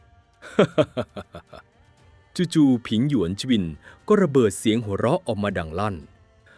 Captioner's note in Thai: เสียงหัวเราะ